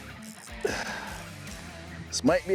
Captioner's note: exhales